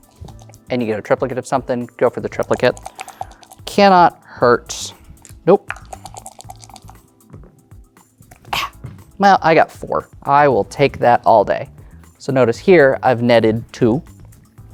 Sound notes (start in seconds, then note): 2.4 dice rattling; 5.6 dice rattling; 5.6 dice rolling